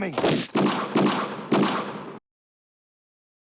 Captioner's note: gun shots